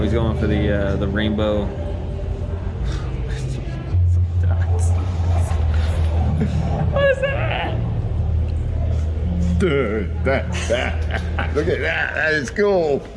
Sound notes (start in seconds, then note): 7.4 high pitch voice; 10.1 laughing